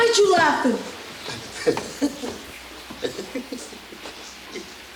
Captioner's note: patron giggles